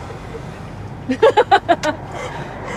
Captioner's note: laughing